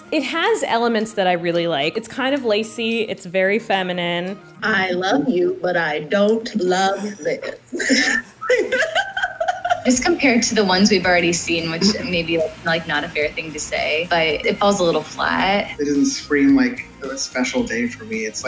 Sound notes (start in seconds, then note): 6.5 laughing